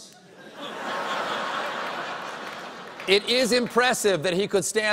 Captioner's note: laughter